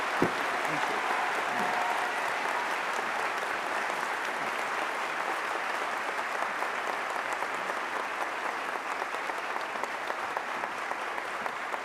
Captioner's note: applause